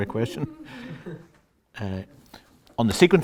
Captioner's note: laughter